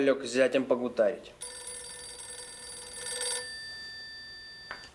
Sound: phone rings

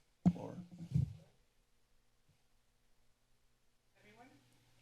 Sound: silence

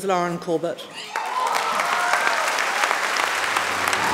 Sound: audience clapping

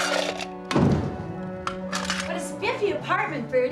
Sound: door closes

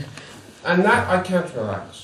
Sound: laughs

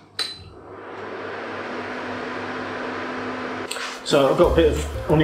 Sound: fan whirring

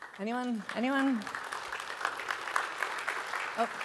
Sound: applause

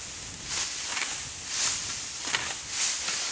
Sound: scraping

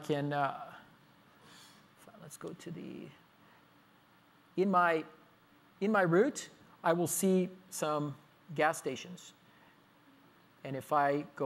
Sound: pause

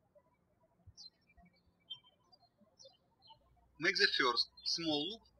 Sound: birds chirping

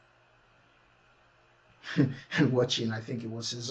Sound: laughing

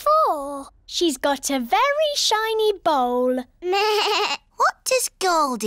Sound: bleats

